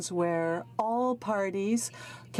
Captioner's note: speaking french